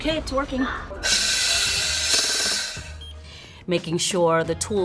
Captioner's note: air whooshing